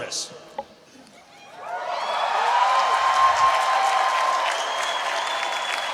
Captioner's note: cheering